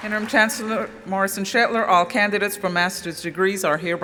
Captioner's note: applause